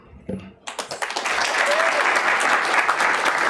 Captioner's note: applause